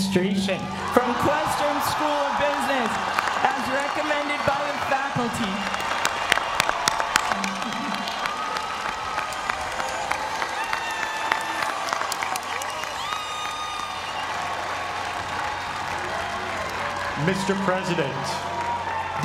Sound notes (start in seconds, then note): 5.5 applause